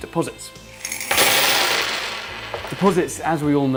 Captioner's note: coins chiming